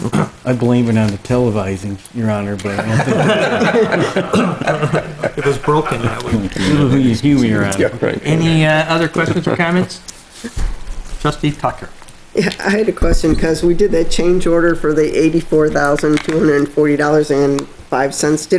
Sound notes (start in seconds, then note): 2.6 board members laughing; 5.6 speech drowned out by chuckling